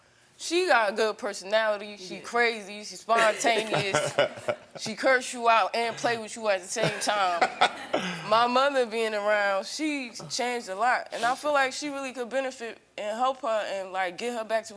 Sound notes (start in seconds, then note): 3.1 Karamo laughs; 6.8 all laugh